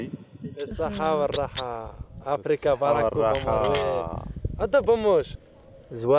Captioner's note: speaking foreign language